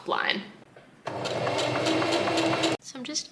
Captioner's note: sewing machine chugs along